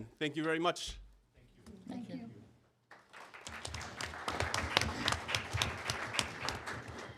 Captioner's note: applause